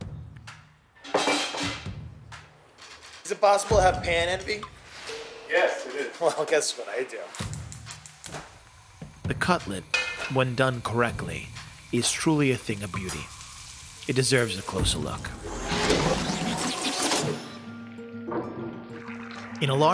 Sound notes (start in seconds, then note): 0.0 rhythmic drumming; 15.5 rewinding rapidly; 16.4 uplifting music